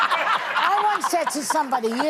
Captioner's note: laughing